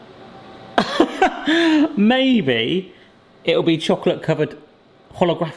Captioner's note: laughs